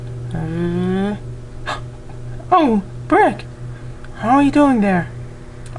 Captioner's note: gasps